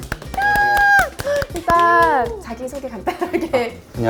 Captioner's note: big cheer